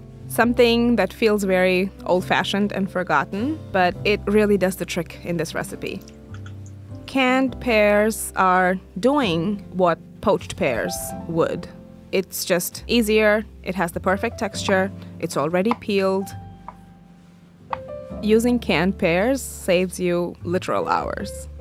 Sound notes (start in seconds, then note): 15.6 knife chopping; 21.4 soft jazzy music continues